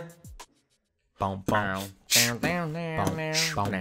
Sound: voice Beatboxing

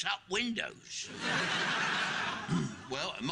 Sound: audience laughing

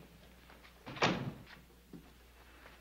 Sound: door closes

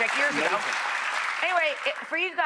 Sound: audience clapping

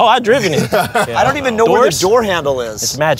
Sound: laughter

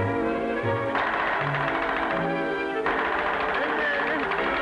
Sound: pills firing; pained mumbling

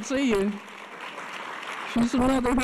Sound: audience applause

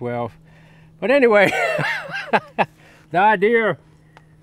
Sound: laughing

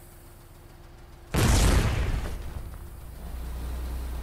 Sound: boom

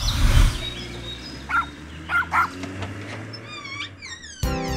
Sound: woof! Woof!

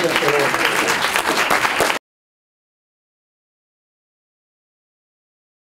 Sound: applause

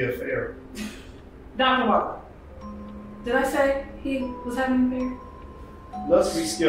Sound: laughs

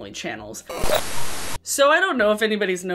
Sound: white static

